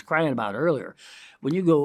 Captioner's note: inhales